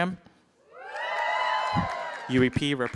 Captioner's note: cheering